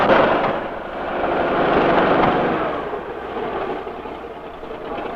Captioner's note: tank engine roaring